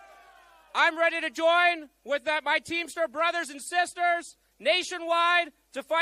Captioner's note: cheering